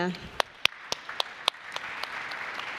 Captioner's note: applause